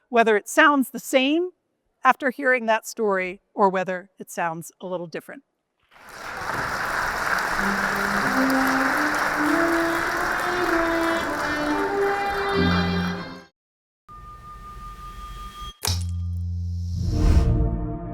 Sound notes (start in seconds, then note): 5.9 audience applauding; 10.7 gentle music